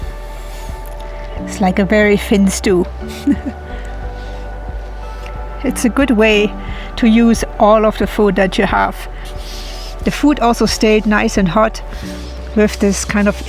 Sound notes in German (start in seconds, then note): 3.0 lacht